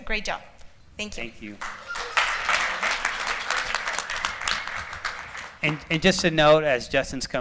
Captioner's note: applause